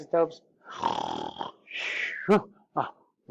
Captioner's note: snores, chuckles